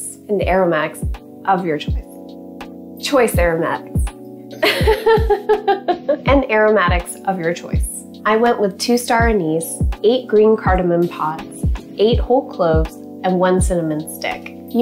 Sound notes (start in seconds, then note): 4.6 laughs